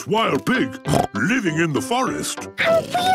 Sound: snorts

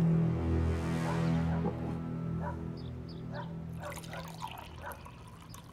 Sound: dog barking outside

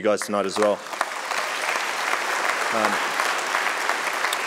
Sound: audience clapping

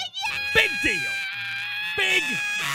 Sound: Tina continues screaming yeah

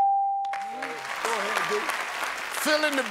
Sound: applause

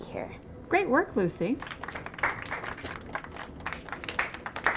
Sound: applause

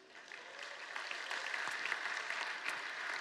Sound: applause

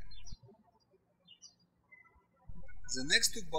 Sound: birds chirping

